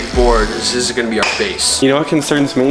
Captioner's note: clicks tool